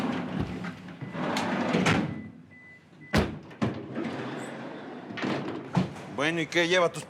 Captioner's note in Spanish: ruido al abrir las puertas